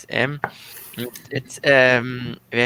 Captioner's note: chuckling